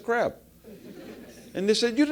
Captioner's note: laugh